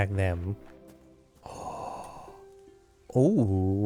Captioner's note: gasps